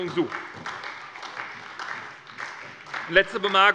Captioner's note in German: Beifall bei der SPD